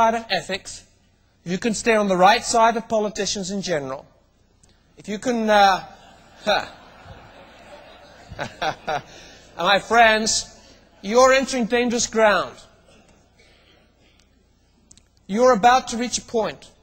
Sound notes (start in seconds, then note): 6.0 laughs